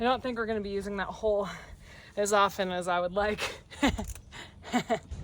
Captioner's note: laughs